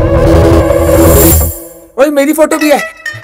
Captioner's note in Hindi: none